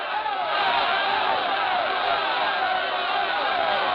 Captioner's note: people shouting